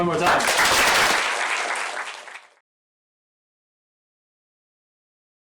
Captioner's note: applause